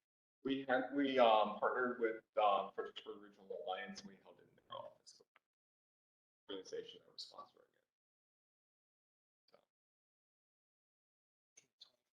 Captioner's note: low voice